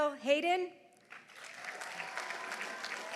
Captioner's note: audience applauding; audience cheering